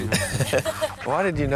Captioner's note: lalaugughthterer